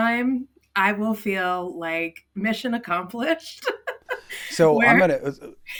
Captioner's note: laughs